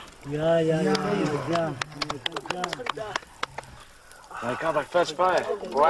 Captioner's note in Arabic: التصفيق حشد